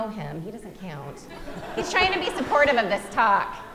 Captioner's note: audience laughing